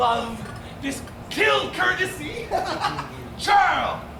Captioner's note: laughs